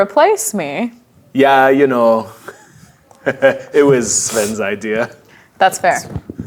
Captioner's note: chuckles